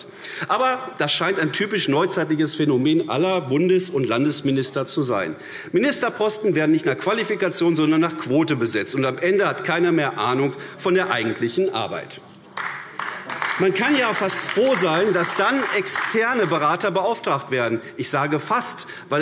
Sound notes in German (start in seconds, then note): 12.5 Beifall AfD